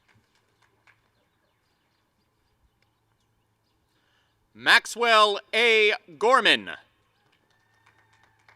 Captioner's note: applause; cheering; applause and cheering